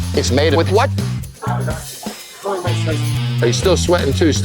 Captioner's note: chatter